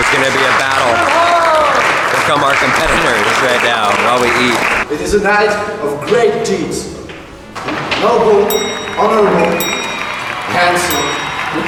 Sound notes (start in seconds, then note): 8.4 bell dings; 11.4 applause, laughter